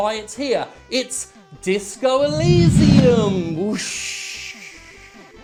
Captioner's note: whoosh